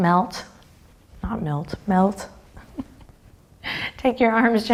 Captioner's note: chuckles